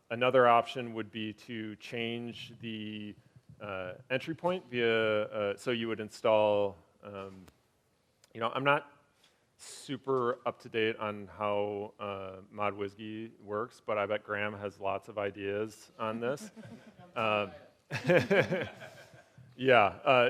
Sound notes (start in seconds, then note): 17.9 laughing; 18.0 audience laughing